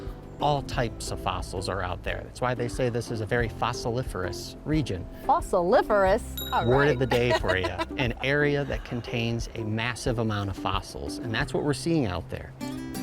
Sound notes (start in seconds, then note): 6.4 bell dings